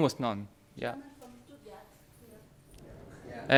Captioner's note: woman speaking off microphone